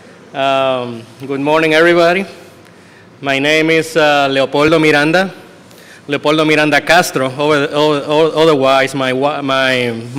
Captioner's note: speaking spanish